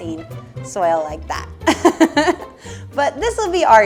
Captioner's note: laughs